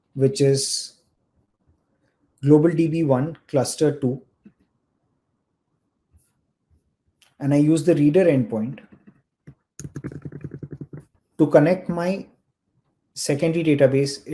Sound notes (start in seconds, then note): 9.8 keyboard thudding